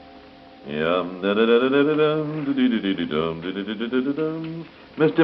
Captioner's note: humming